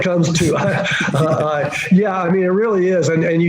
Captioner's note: laughing